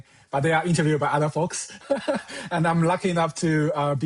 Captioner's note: laughs